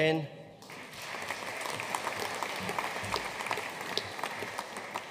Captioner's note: audience applauding